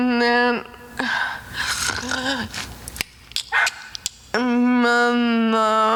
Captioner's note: Selma takes a breath; tongue clicking